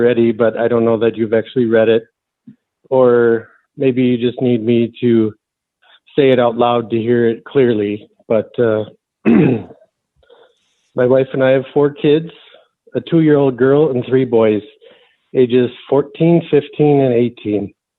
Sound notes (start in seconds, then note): 9.2 clears throat